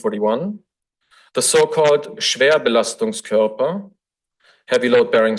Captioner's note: foreign language